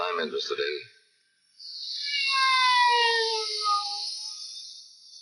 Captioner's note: siren wailing